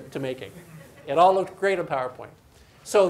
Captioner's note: audience laughs